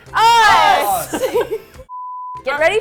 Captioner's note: all laugh